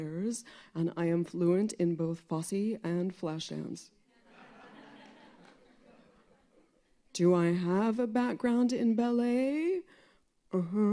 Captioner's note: laughter